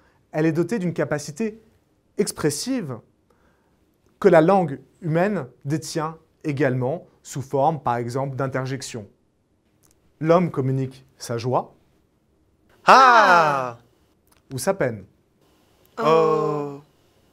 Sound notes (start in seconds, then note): 12.8 haha